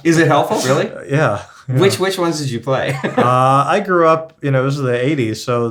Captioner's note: laughs